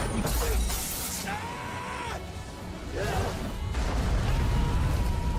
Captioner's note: people screaming